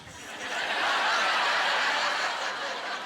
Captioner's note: laughter